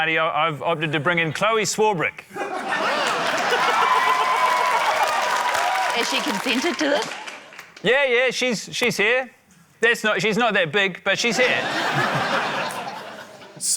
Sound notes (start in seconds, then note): 2.3 laughter; 2.8 cheering, applause; 11.3 laughter